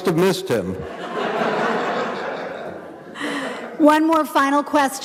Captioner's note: audience laughing